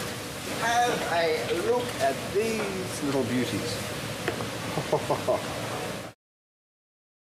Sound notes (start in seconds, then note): 4.7 chuckles